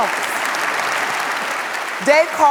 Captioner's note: audience applauds